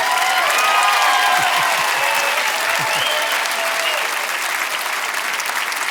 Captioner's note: audience cheering and applauding